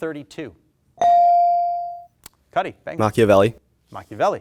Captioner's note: bell dings